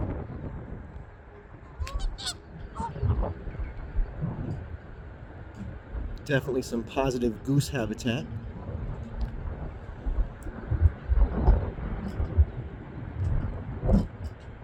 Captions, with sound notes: (Canada Geese calling) Definitely some positive goose habitat.